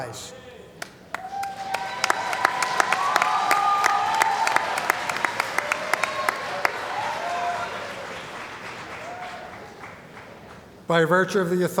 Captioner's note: cheering & Applause